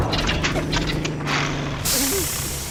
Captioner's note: engine sputters